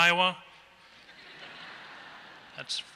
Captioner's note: laughter